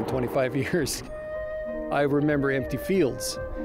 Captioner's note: chuckles